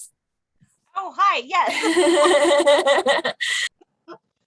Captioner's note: both laughing